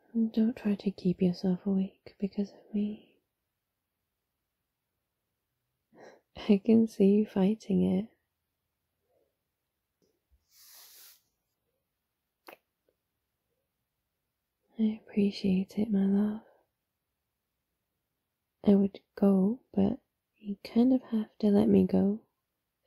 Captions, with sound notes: don't try to keep yourself awake because of me I can see you fighting it *kiss* I appreciate it, my love I would go but you kind of have to let me go